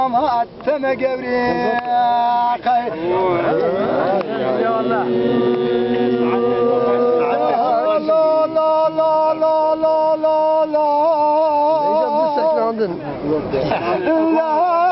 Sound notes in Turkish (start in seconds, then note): 4.0 hmmm